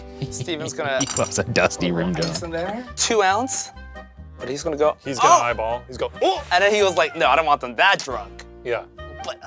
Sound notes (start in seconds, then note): 0.1 laughing